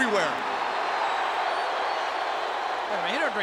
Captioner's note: audience booing